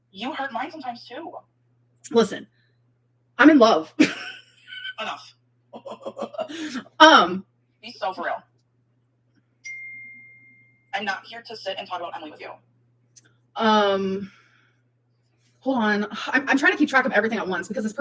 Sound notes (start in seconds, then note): 5.7 chuckles